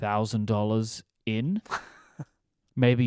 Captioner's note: laughs